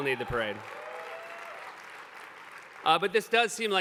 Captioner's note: applause